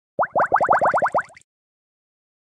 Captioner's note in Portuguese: Introdução - som de bolhas